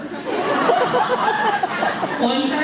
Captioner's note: laughs